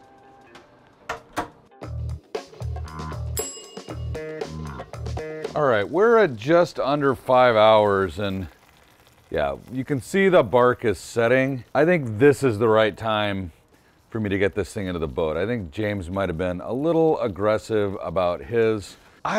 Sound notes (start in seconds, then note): 1.8 upbeat bass music; 3.4 timer dings